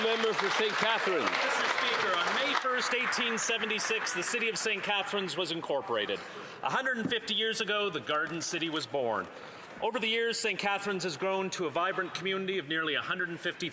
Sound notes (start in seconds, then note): 2.6 some Applause